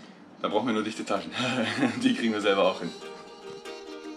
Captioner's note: laughs